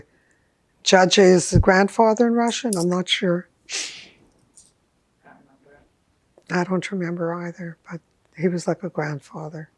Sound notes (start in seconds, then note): 0.7 russian; 3.7 sniffing